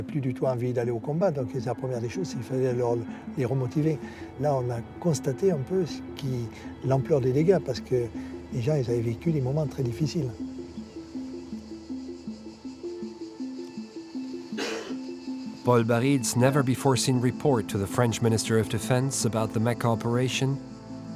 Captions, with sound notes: [ Speaking in French ] [ Speaking in French ] [ Speaking in French ] -Paul Barril's never-before-seen report to the French minister of defense about the Mecca operation